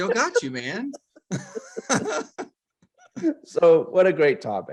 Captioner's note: laughing